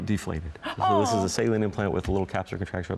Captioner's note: sighs